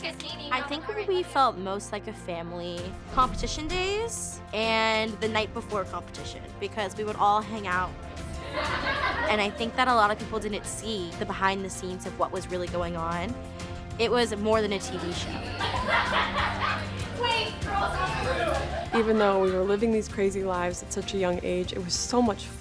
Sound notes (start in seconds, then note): 14.9 all laughing